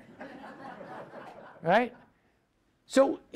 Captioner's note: audience laughs